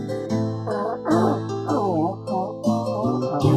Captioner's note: elephant horn sounds, crystal clear